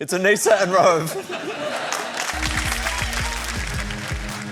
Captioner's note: laughter, applause